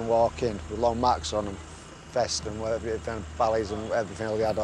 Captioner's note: speaks faintly